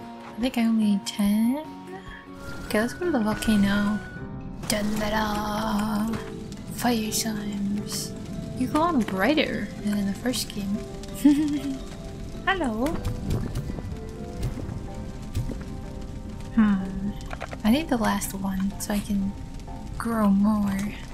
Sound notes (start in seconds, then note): 11.2 giggle